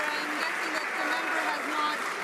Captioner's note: some Applause